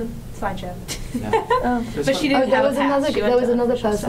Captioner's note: laughs